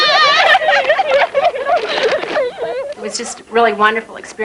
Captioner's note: laughing and hugging